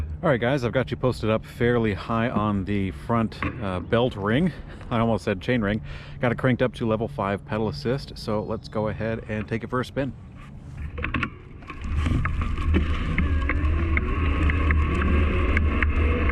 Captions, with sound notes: All right guys, I've got you posted up fairly high on the front belt ring, I almost said chain ring, got cranked up to level five pedal assist. So let's go ahead and take it for a spin. (motor engine roaring)